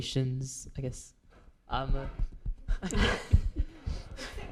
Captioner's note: laughs